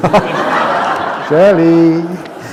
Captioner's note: laughter